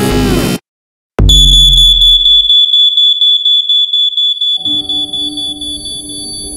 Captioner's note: Smoke alarm ringing